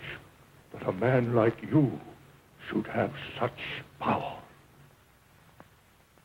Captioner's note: none